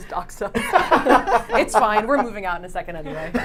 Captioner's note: laughs